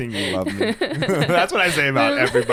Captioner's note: both laughing